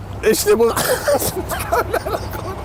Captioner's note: breaks out laughing